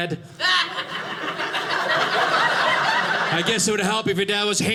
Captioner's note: audience laughing